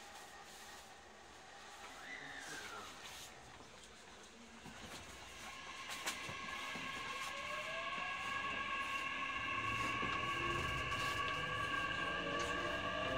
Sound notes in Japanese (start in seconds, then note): 1.2 加速音